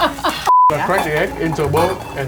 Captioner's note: laughing; beep